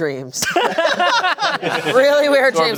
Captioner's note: everyone laughing